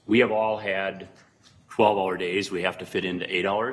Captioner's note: none